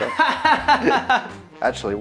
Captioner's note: laughs